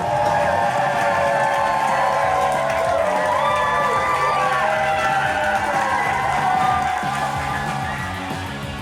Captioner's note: crowd clapping and cheering